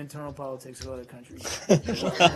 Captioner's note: laughter